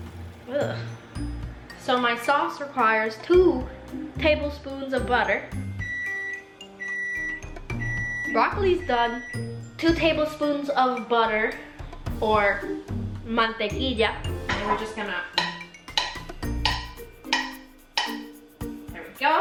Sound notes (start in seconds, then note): 5.6 very rude BEEPING; 13.3 said with aggressively Puertorrican accent